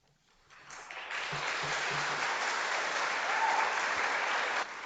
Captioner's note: audience applauds